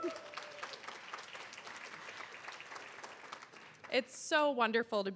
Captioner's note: audience applauding and cheering; chuckling